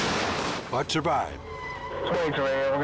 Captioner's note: vehicles crashing loudly